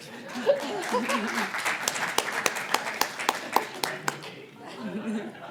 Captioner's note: applause